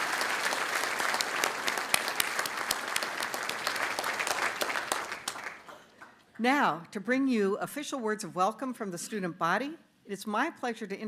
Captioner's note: applause